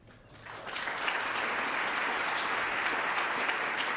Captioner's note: audience clapping